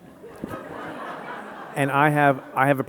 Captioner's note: audience laughing